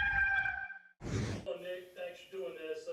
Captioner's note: rooster crows; air whooshing